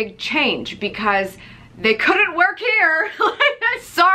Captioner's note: laughs